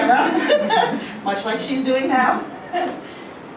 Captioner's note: students laugh